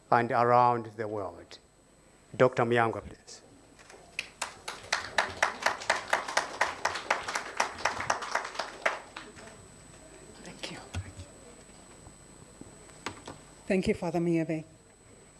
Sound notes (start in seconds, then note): 3.8 attendees applauding